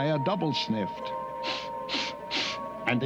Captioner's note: both sniffing